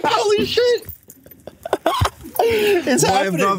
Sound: chuckles

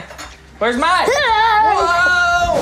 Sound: yells

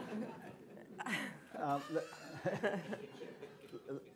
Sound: laughter

